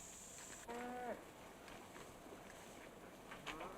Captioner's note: cows mooing